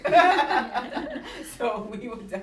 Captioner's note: laughter